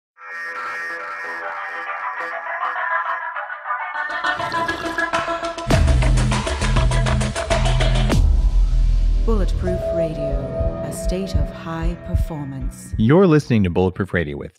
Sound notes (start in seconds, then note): 1.2 upbeat, techno music; 12.3 heart beating